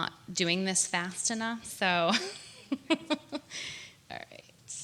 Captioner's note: laughs